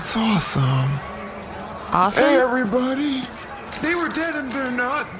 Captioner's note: shouting